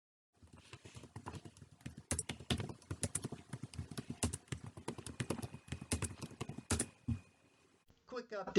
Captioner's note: tapping of keyboard